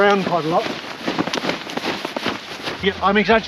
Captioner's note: harness whacking